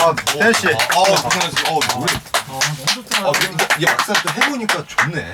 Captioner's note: applause